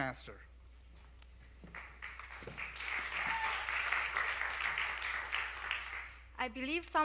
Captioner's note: applause